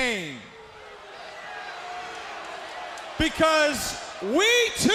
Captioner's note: crowd cheering